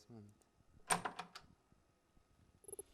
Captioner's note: door Opens